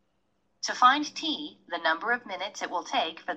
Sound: computer voiceover

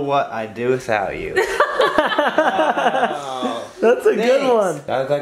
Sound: laughter

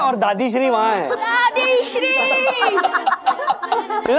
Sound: laughs

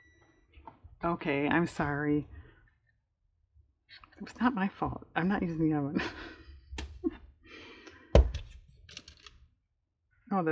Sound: laughs

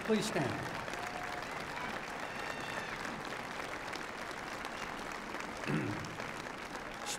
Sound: applause

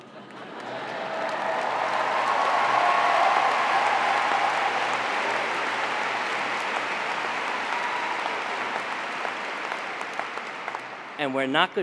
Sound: applause

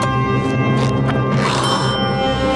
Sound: gasps

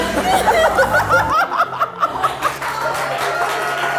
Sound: laughter

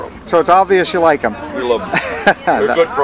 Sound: laughing

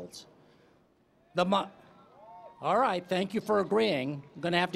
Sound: cheering

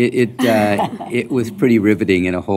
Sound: chuckling

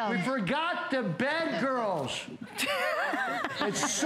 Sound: laughter

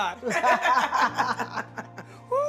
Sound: laughter

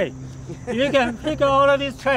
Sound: laughing

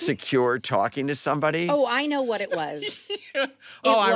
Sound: laughing

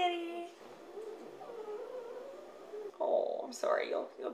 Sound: dog whimpering

